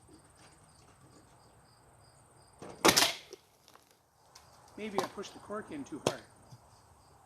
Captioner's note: pow